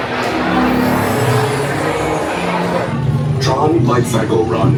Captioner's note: device drones